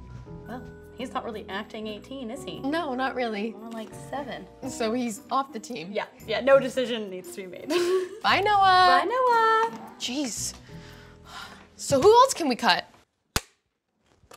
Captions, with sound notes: - Well. He's not really acting 18, is he? - No, not really. - More like 7. - So he's off the team? Yep. Yeah, no decision needs to be made. (Giggles) - Bye, Noah! - Bye, Noah! Jeez... so who else can we cut?